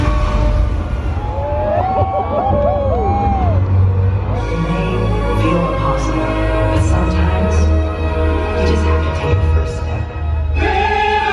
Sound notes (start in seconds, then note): 1.6 audience cheering